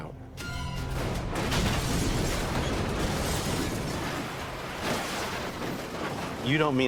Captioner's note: crashing